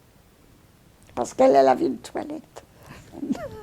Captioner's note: laughing